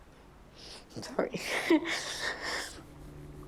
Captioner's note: weeps